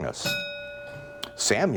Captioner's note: bell ringing